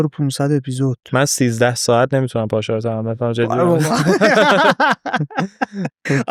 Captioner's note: laughs